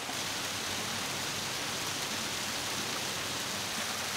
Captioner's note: waterfall sounds